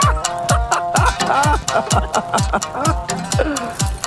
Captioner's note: laughs